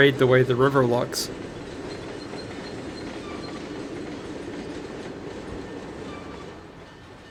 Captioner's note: train whistle